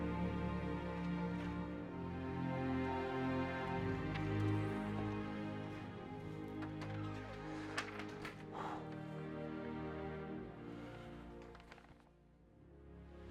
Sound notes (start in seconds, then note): 0.1 soft dramatic music continues; 7.2 door creaks; 8.6 Barney exhales